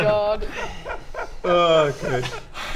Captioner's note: sigh of a broken man